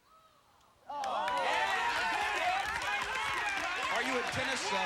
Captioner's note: cheers